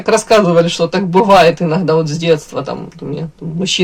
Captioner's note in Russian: none